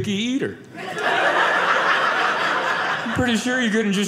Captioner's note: audience laughing